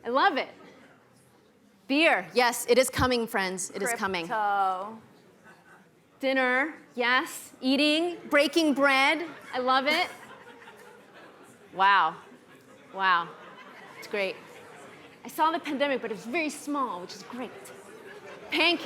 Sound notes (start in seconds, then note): 9.0 audience laughing